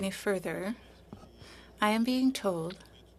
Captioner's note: speaking French